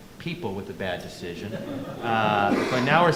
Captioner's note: audience laughing